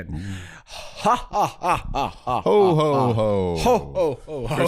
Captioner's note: maniacal laughter